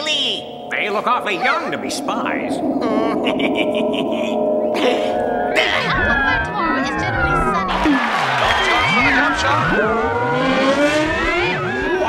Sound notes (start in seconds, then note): 2.7 wizard laughs; 6.2 noises from the crystal ball